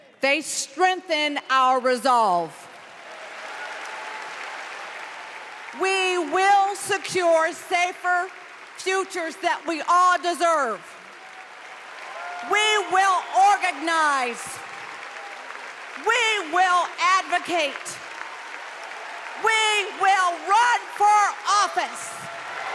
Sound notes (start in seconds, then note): 9.7 applause